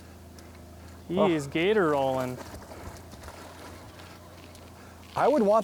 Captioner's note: voiceover